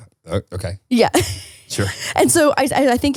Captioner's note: laughs